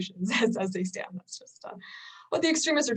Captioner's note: chuckles